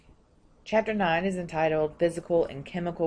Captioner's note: voiceover